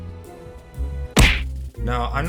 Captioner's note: smack